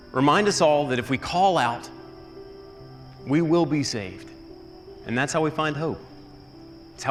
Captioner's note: none